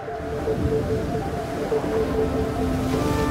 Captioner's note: wind howls